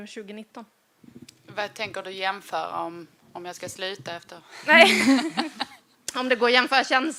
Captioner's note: laughs